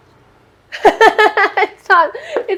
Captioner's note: laughs